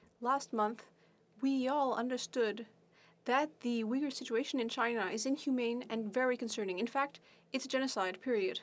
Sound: speaking French

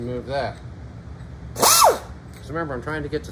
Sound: grinder buzzing

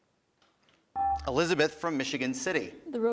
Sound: buzzer

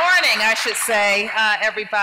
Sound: applause

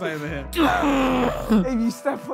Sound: screaming

